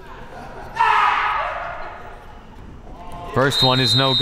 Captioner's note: screaming